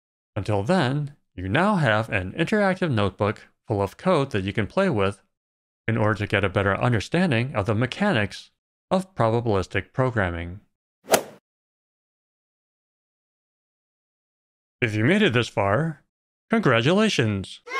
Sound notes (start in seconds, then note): 11.0 golf ball hit sound